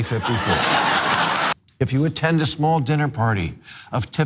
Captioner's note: laugh